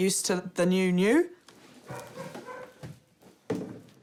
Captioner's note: dogs bark